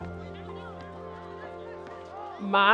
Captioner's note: gentle music; background chatter